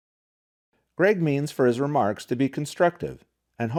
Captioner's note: voiceover